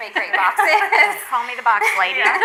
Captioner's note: all laugh